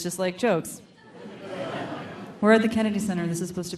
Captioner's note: audience laughing